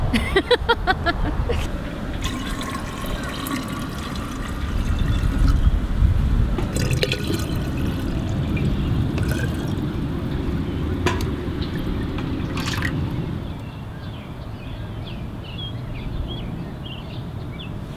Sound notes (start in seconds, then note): 0.1 laughs; 1.6 pouring; 13.5 birds singing